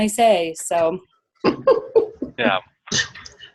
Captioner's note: laughter